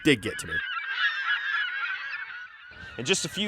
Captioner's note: seagulls calling